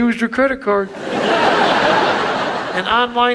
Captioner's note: audience laughs